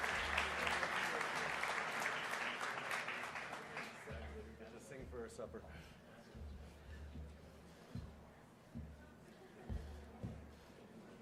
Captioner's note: applause